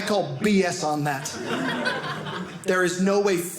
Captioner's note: audience laughing